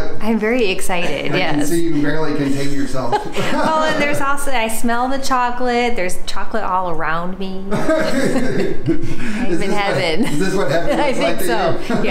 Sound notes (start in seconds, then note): 3.1 laughing; 7.7 laughing